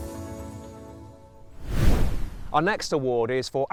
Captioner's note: air whooshes